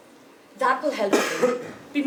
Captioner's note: cough